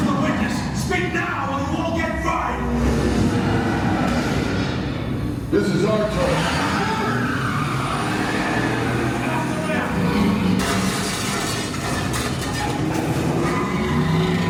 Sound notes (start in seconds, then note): 3.3 engine roaring; 7.8 tires screeching; 10.5 car crashing